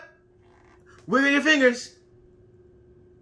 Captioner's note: coughs